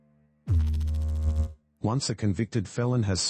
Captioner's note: electrical noise